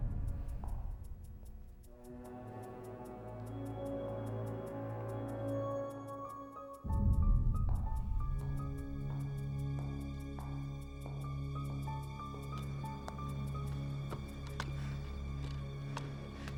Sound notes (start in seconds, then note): 0.3 slow dramatic music; 9.1 heels lightly clicking